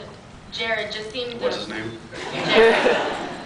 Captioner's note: laughs